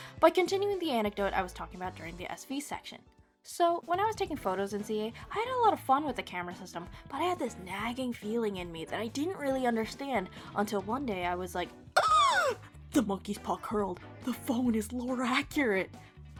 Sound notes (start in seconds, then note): 12.0 ginormous gasp